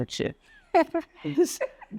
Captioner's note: laughs